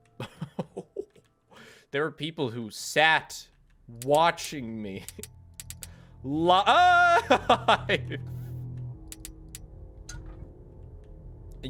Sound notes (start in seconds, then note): 0.2 laughs; 6.7 screams, laughs